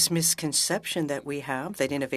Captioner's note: speaking French